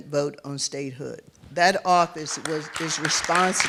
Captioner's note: applause